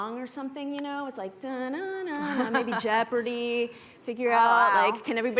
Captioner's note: humming